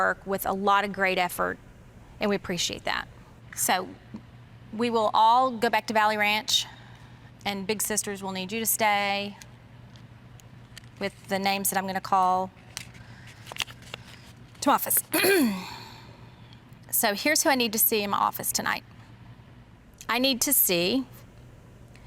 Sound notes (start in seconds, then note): 15.1 clears her throat